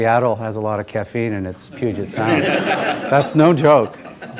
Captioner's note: laughter